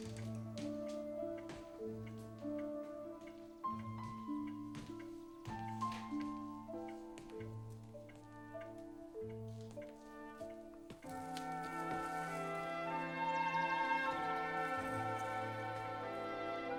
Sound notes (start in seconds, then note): 0.1 soft music continues; 8.1 clock ticking